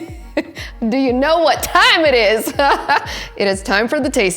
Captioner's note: laughs; laughs